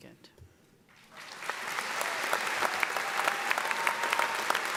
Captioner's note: audience applauding